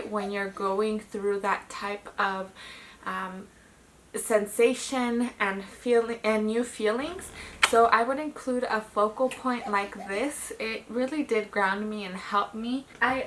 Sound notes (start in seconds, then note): 7.2 kissing cheek